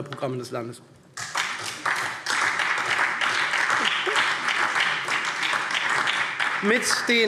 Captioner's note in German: Beifall SPD